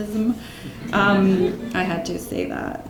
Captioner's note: laughing